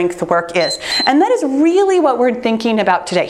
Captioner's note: timer beeps